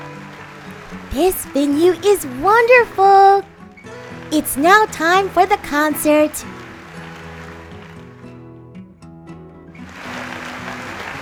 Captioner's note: clapping sounds from the audience and music instruments tuning